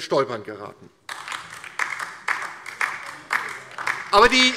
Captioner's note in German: Beifall DIE LINKE